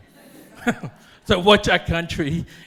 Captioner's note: audience laughing